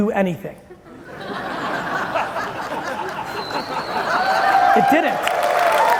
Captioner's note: audience laughing, cheering, and applauding